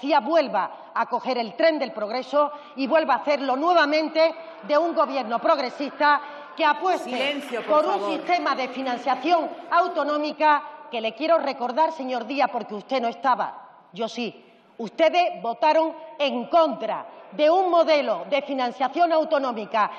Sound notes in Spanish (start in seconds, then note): 6.5 Rumores.-Aplausos